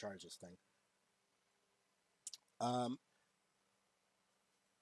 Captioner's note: sucks teeth